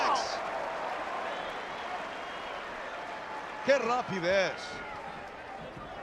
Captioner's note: applause